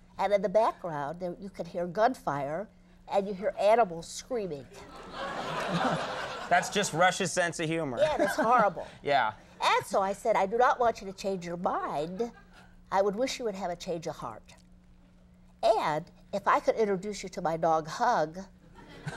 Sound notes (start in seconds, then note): 4.8 audience laughing